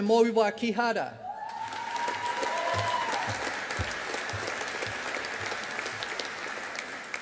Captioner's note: audience applauding